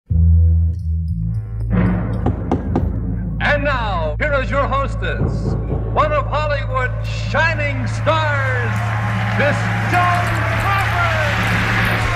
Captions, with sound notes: (knocks x 3) And now, here is your hostess; one of Hollywood's shining stars, Miss Joan Crawford.